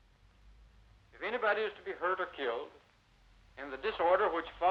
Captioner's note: on TV